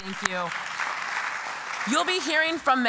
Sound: applause

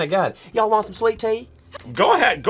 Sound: in 'Southern' accent

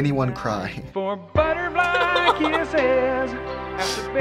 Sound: cries

